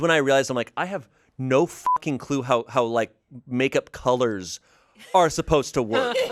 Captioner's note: beep